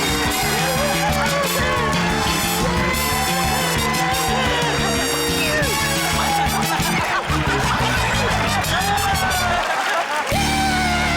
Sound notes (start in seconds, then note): 5.6 laughter